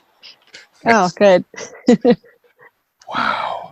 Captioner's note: chuckles